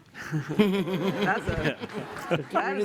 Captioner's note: laughter